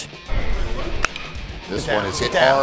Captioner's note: ball hitting bat